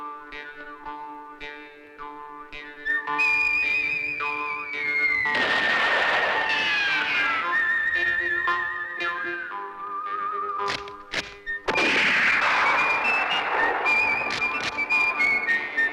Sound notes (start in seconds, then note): 5.3 gunshot; 10.7 gun cocking; 11.6 gunshot; 13.7 gun cocking